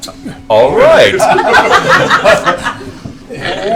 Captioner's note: laughter